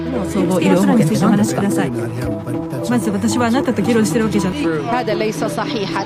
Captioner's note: woman speaking in Japanese; woman speaking in foreign language